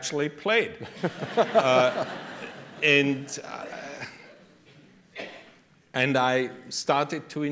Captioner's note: laughter